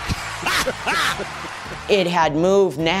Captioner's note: laughter